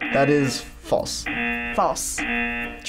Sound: buzzer rings

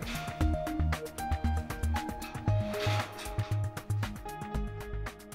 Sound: metal rigging slides back and forth

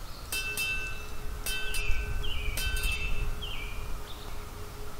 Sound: bell Rings

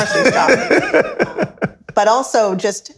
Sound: laughs

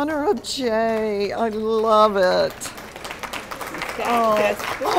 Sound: applause

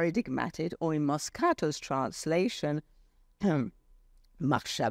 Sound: speaks foreign language

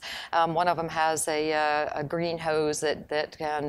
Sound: none

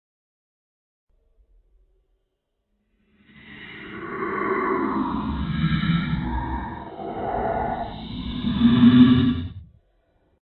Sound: sound of echo dungeon

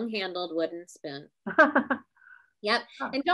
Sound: laughs

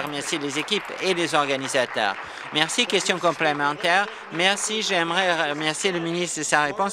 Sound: applause

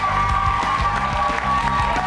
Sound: cheers

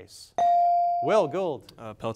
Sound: device dings

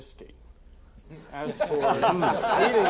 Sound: all laughing

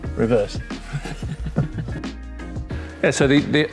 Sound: laughs

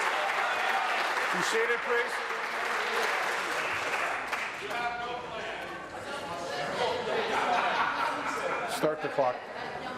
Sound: applause

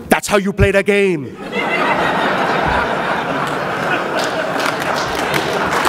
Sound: laughs

